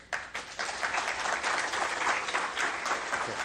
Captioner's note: crowd applauds